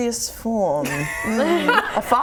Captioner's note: laughing